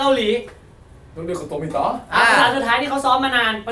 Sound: Korean

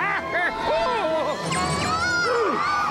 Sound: laughing wildly; exclaiming

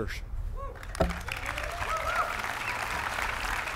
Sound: applause

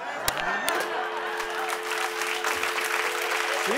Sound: dial tone; applause

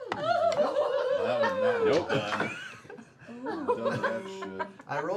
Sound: laughter

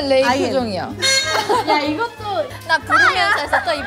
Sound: crack up

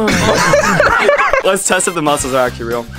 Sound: laughing

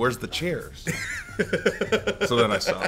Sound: laugh

